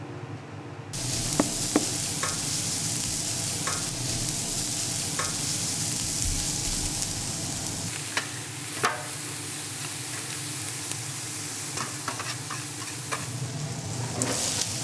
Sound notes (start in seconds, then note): 1.0 hissing